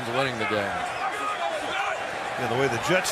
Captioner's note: shouting